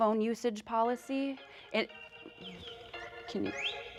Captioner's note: phone ringing